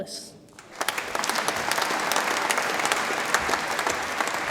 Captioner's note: audience applauds